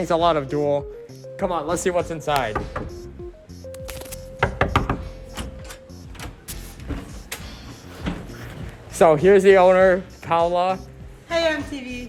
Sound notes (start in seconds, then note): 4.4 knocks, Knocks